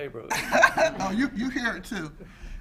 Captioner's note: woman laughs